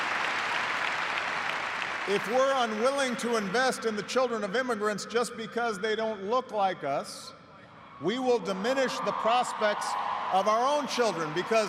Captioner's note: applause